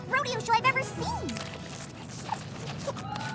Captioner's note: munching